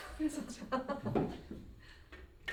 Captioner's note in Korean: 웃음